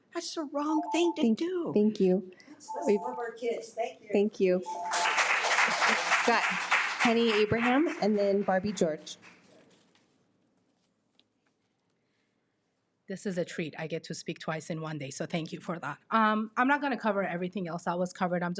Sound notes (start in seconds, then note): 4.6 audience clapping